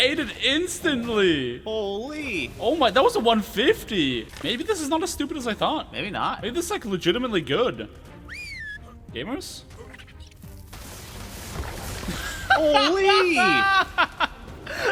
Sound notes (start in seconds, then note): 8.2 whistle command sound; 9.7 drakeling combat noises; 12.0 bursts out Laughing